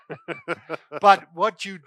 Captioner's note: laughing